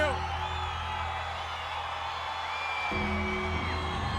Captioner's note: audience cheers